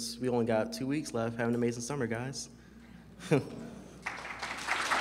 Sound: laughs; applause

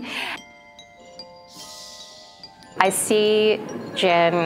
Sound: bells tinkling

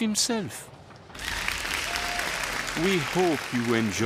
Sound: applause

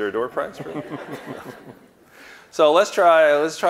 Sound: audience laughing

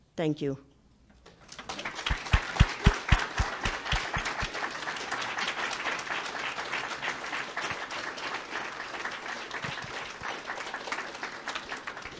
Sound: public clapping

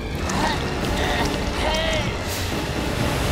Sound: groaning

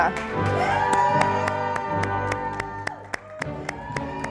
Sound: audience applauding

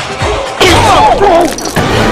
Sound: sound of being installed into concrete

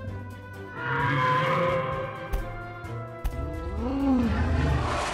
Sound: dinosaur roaring; dinosaur roaring

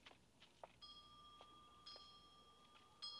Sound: bell ringing

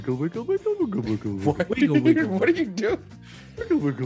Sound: laugh

